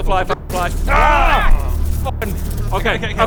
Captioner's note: obnoxious buzz